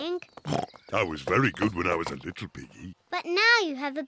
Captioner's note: snorts